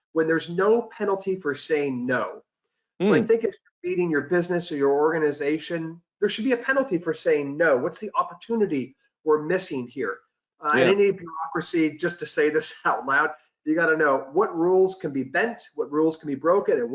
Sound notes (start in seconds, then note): 3.7 audio warps